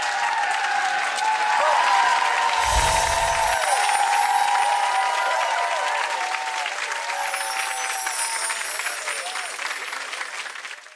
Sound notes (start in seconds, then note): 0.8 lips kiss; 2.6 magic wand music; 5.0 audience clapping and cheering; 8.2 magic wand music